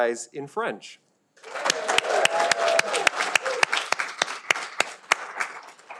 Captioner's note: audience applauding